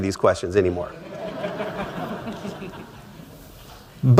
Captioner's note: laughter